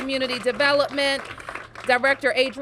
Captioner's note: applause